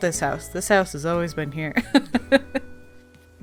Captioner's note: laughs